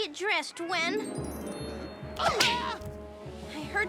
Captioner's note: kids yelping